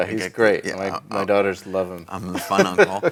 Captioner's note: laughs